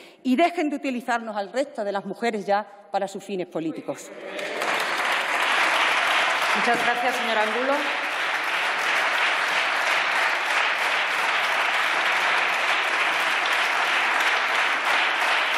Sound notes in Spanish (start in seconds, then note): 7.9 Aplausos